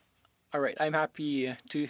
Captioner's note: speaking French